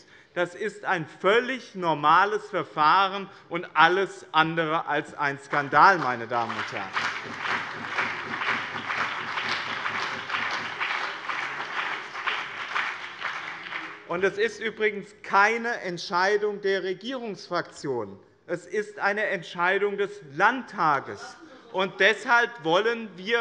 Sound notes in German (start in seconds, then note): 9.1 Beifall BÜNDNIS 90/DIE GRÜNEN und CDU